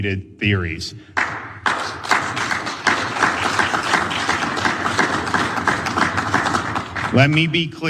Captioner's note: applause